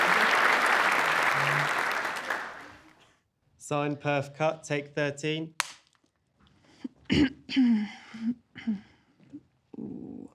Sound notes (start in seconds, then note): 5.6 clap; 7.0 clears throat